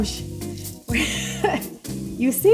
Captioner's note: laughing